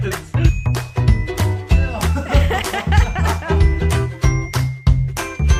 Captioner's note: upbeat music; laughing